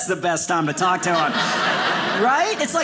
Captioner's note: audience laughing